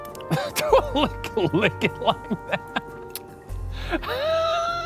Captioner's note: laughing; laughs